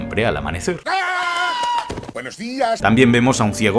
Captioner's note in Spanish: Grita